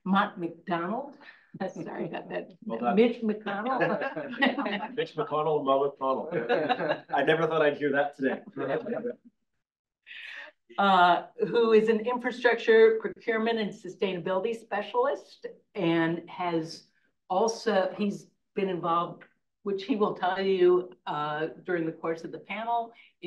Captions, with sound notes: Mott MacDonald, sorry about that, Mitch MacDonald. (speaker laughs) - Mitch MacDonald, Mott McConnell, (speakers laughs) I never thought I'd hear that today. - Who is an infrastructure procurement and sustainability specialist. He's been involved, which he will tell you during the course of the panel